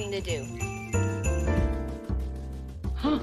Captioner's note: playing piano; gasps